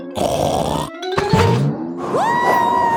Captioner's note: snorts